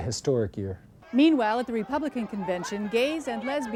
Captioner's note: sounds of protesters shouting